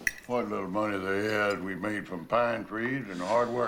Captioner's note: slurping continues